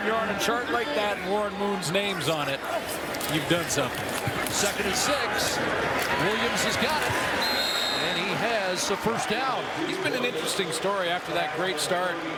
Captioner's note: cheering and Applause